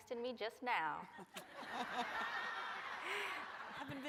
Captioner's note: laughter